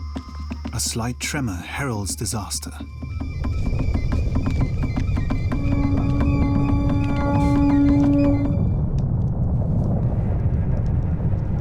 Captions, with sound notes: A slight tremor heralds disaster. [loud rumbling]